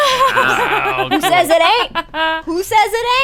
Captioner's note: laughter